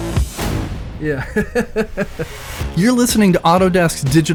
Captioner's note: laughs